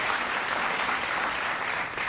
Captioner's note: applause